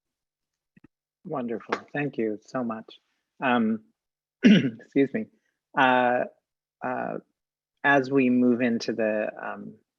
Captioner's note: cough